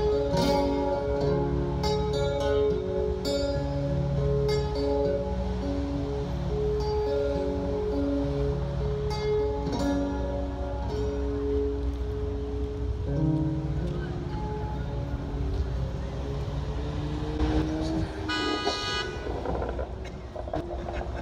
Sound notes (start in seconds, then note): 12.4 music fades. Streets sounds; 17.4 car drives by. Sound of horn